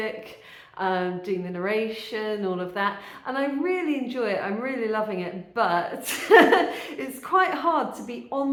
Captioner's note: laughing